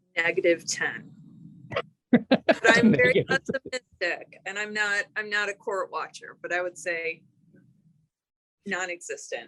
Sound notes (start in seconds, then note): 2.1 chuckling